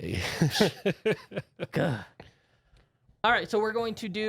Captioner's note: light chuckling